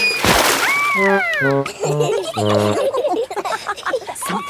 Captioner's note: all laughing